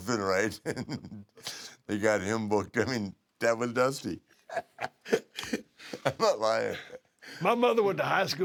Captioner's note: laugh